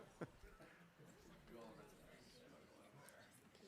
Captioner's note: laughing